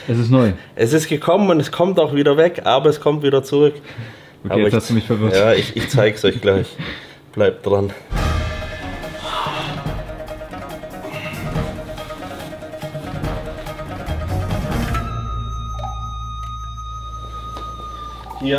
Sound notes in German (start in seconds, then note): 9.8 räuspern; 11.1 gelächter